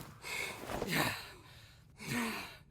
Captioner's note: both panting